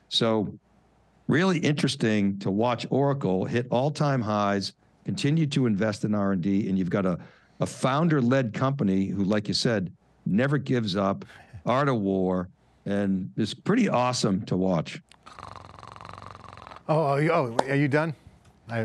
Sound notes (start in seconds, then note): 15.2 snoring